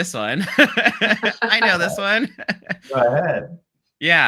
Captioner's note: laughs